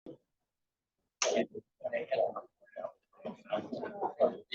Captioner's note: people chatter indistinctly